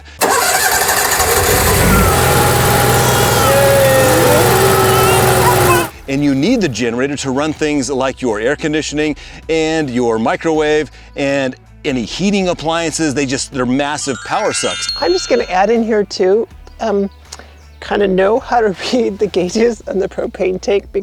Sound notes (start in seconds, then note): 0.2 engine revving; 2.7 cheering